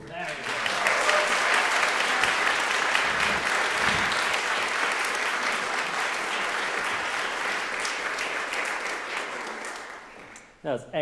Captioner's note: audience clapping